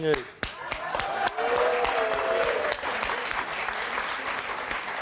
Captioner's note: audience applauding